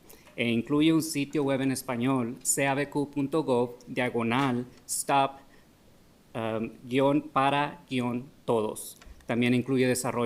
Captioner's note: speaking spanish